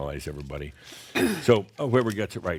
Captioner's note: whispers